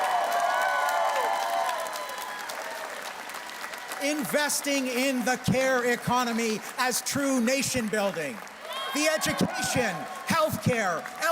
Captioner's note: cheers and Applause